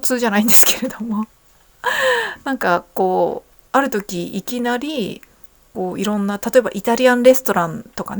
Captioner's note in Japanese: 息をのむ音